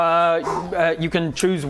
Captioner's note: phew